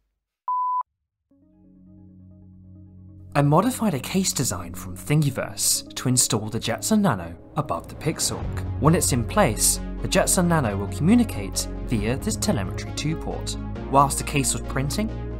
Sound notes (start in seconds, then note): none